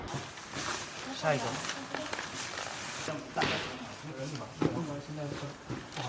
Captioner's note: speaking in foreign language